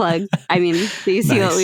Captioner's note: loughs